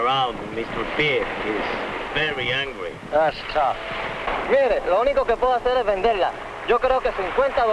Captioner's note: speaking spanish